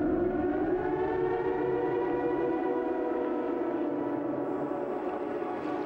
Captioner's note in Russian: Сирена